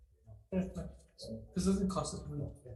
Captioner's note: chair speaks faintly